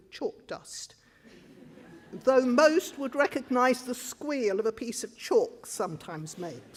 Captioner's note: crowd laughs